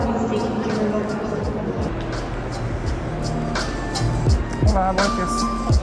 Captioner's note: speaks in foreign language